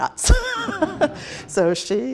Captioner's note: laughs